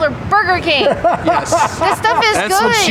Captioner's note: interviewer laughs